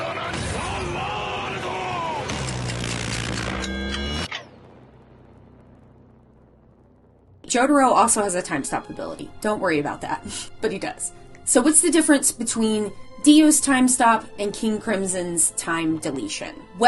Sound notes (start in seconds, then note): 2.4 intense music; 2.4 magic power booms